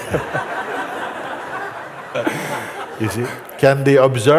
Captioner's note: laughter